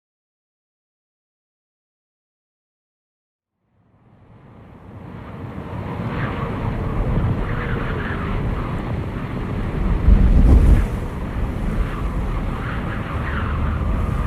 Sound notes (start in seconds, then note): 5.2 wind blustering